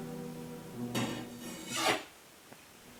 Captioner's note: metallic scraping noise